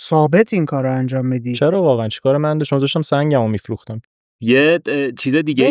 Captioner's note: laughs